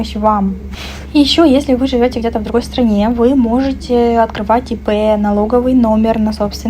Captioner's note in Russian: фыркает